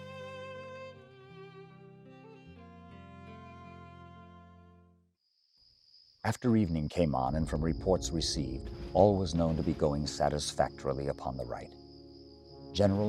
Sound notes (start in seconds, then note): 0.0 melancholy music; 6.4 voiceover